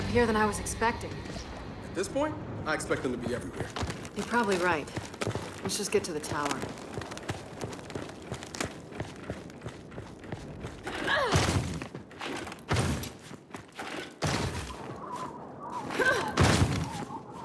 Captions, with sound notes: here than I was expecting? - At this point, I expect them to be everywhere. - You're probably right. Let's just get to the tower. (grunts) (sirens wailing)